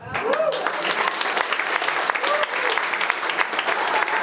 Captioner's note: attendees applauding